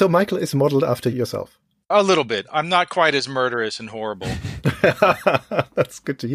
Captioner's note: laughs